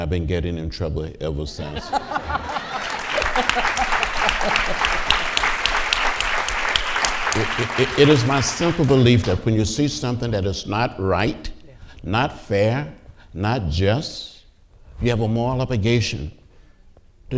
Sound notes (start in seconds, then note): 1.6 audience laughing and applauding